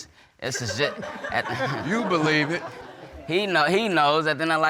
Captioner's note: audience laughing